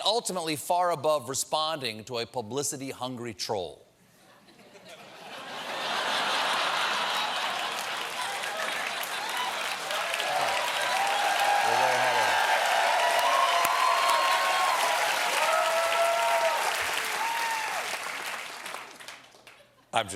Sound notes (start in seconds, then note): 6.2 applause; 6.9 laughter